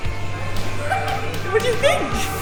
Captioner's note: laughter